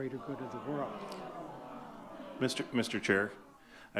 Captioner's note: audience clamoring